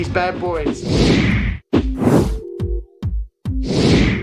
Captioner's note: whoosh